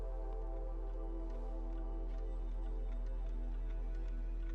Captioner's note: cat statues ticking